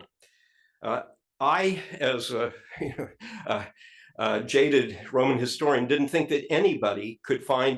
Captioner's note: laugh